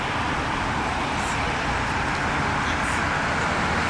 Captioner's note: traffic Noises & Women Talking